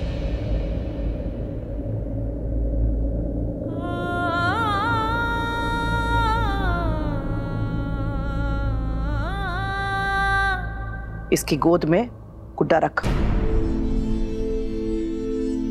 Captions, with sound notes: [wind blowing silently] [emotional vocalising] Place the doll in her lap.